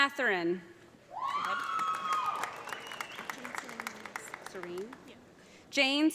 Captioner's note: audience cheering; audience applauding